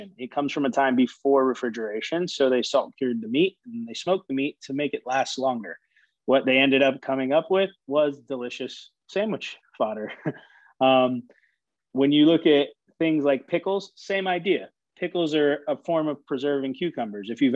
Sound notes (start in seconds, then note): 11.0 laughing